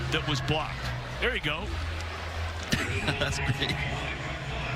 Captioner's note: laughter